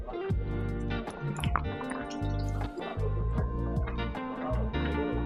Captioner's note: mouth watering